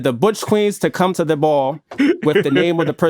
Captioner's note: chuckles